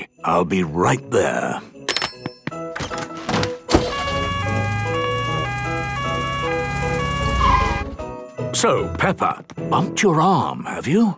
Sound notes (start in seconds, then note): 3.8 siren sounding